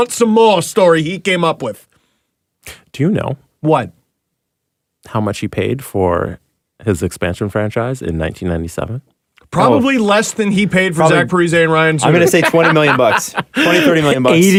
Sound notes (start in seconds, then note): 12.0 laughs